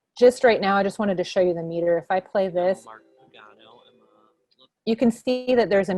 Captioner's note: podcast plays faintly